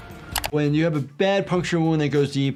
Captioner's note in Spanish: chasquido del teclado